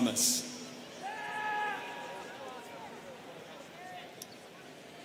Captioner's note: students cheering